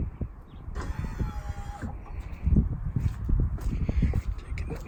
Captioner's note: motor whirring